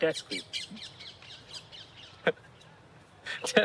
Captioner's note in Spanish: risas